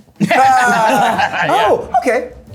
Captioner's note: people laughing